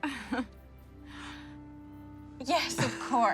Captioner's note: erin laughs